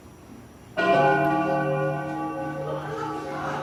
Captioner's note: bell tolls; audience gasps